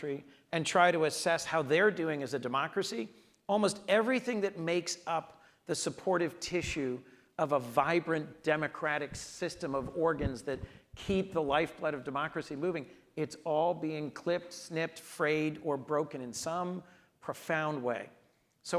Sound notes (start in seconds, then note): none